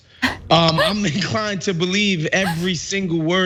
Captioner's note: laugh